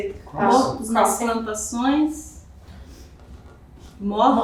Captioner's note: speaking portuguese